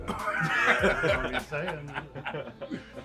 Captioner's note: laughing